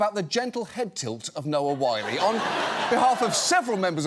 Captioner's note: audience laughs